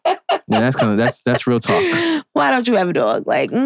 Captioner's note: laughing